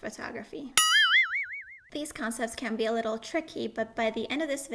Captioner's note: bell ringing